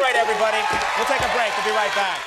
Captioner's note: audience cheers